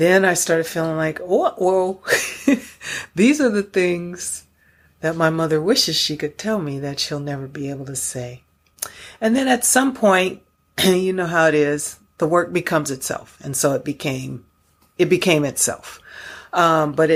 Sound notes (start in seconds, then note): 2.1 chuckles